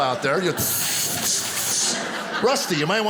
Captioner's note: imitating sizzling